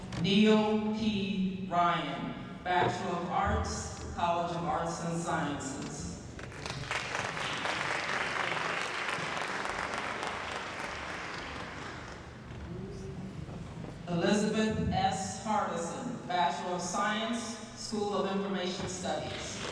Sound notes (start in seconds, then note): 6.4 applause; 19.3 applause